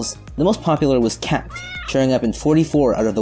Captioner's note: meow* SFX